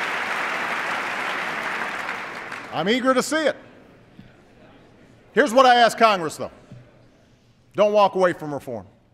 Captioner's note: applause